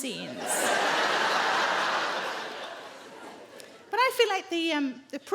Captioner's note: audience laughing